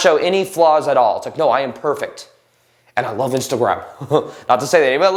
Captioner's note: laughs